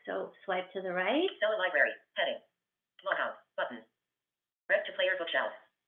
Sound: VoiceOver voice

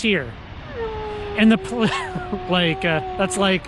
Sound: dog howling

